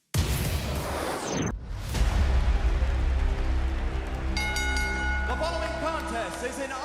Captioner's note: bell ringing